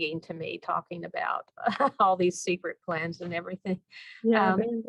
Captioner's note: laugh